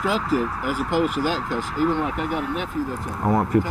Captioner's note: voice fades